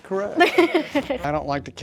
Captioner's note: laughs